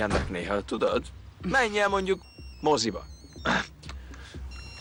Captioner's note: cell phone rings